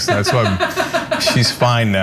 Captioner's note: laugh